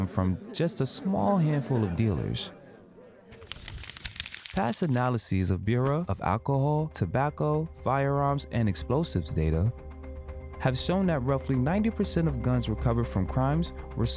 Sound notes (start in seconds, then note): 3.3 paper rustling